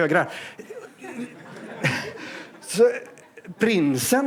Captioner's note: laughter